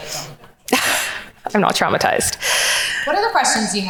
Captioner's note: laughs